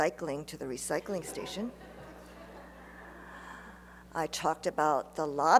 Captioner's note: laughter